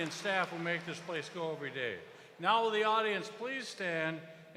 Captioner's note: cheers and applause